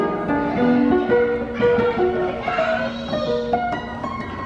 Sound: crowd chattering

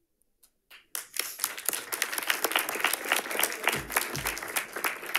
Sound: audience applauding

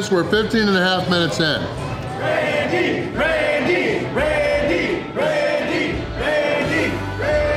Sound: crowd

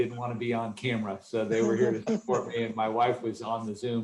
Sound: laughter

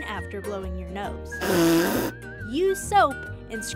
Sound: nose blowing

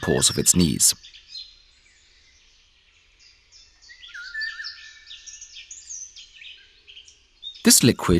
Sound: sounds of nature

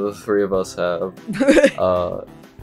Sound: giggles

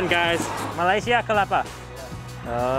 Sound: speaks in foreign language

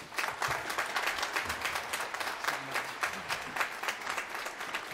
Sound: applause

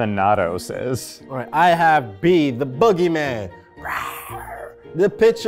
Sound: growls

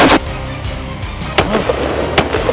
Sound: gunshot Sounds

